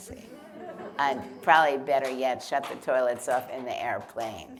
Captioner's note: laughter